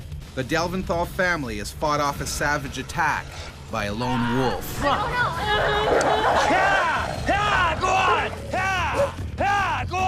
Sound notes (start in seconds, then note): 5.8 boy crying; 6.6 shouting